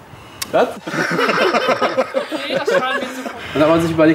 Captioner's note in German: Gelächter